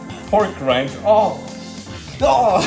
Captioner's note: sniffs hand